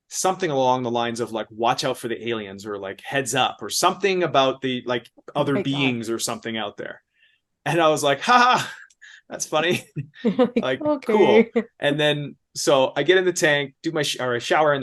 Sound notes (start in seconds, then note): 9.3 laughs